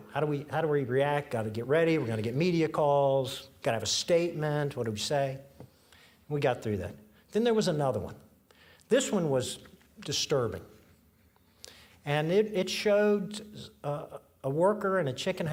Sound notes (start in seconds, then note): none